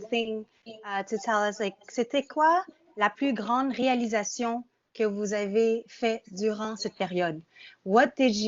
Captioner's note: speaking in French